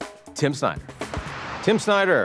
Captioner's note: air whooshing